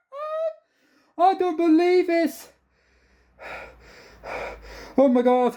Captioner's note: gasping